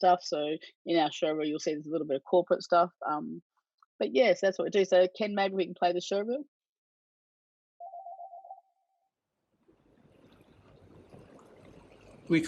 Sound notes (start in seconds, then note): 7.8 phone ringing; 9.7 water flowing